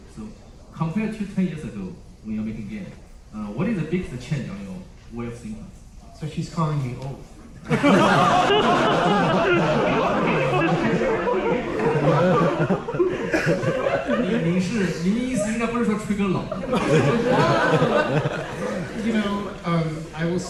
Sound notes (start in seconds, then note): 7.6 laughter; 16.4 laughter